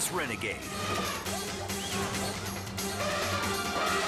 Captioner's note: elephant trumpets